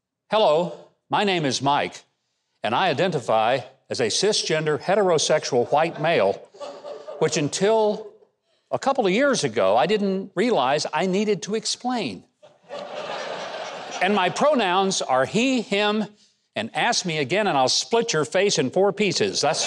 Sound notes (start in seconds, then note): 12.4 crowd laughing